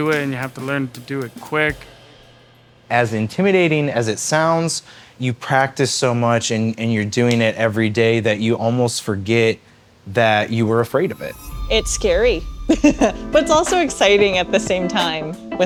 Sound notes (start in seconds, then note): 12.7 laughs